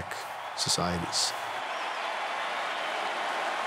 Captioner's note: cheering